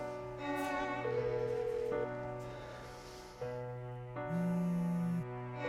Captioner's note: somber music; phone ringing; phone vibrating